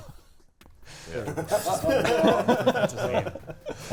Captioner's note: players laughing